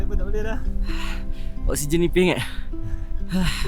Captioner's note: gasp